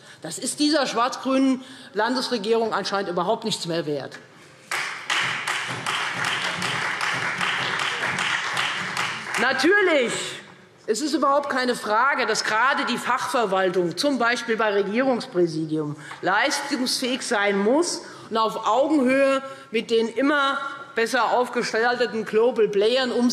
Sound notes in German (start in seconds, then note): 4.6 Beifall Freie Demokraten